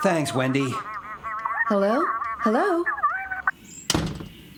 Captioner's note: customers Chattering